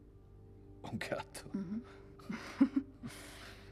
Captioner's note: chuckles